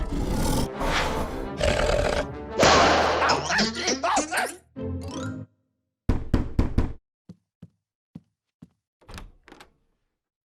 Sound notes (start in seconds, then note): 0.0 snarls; 6.3 knock at door